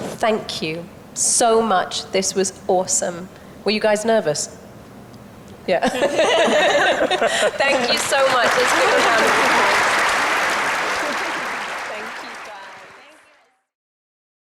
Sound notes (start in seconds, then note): 5.8 entire panel laughs; 9.3 audience applauds